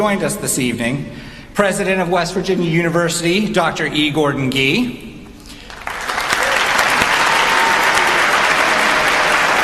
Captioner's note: applause